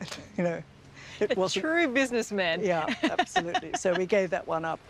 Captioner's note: laughs